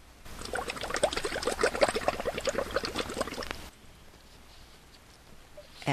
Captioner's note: sound of bubbles in water